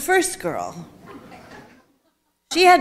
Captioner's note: audience chuckling